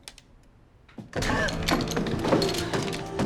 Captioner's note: gasps; gun clatters